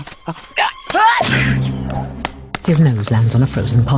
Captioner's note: snowman sneezes